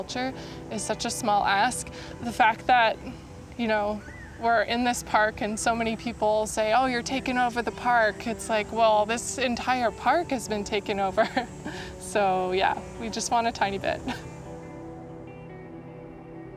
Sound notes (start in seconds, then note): 11.2 chuckles; 13.9 soft music